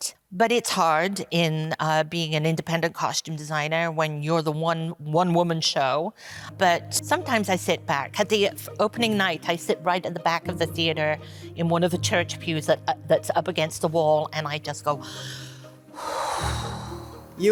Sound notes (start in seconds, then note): 15.0 inhales; 16.0 exhales